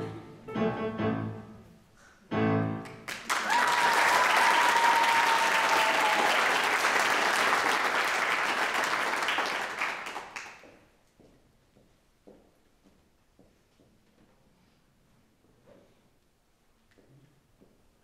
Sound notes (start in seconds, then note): 0.1 tense music; 6.2 audience applauds